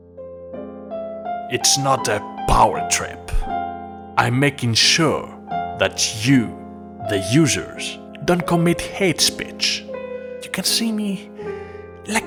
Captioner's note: dramatic Reading